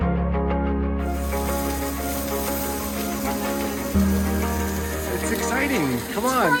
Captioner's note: soft music; pan sizzles